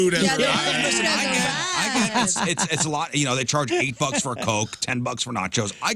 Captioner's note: all Laughing